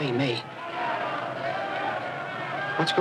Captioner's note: crowd roaring